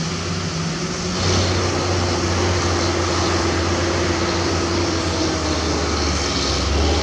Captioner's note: turbo Whine